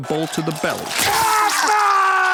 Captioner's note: screaming